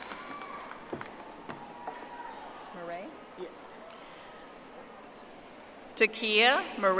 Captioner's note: audience applauding